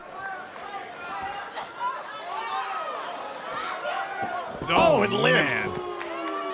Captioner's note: crowd cheering